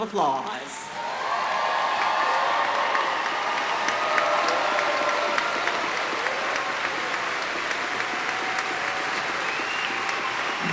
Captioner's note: applause